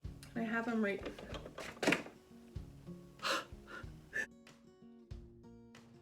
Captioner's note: sighs in Spanish